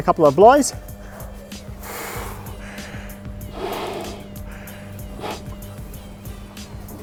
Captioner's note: breathing noises